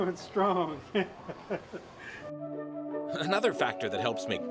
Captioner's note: laughing